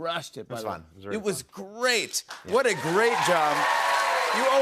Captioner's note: cheers and applause